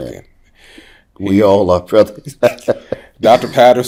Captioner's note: laughing